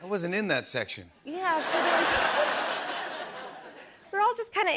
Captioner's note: laughter